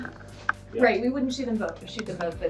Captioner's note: woman's Voice